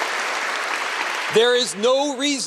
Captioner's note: applause